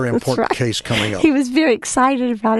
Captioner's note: laughing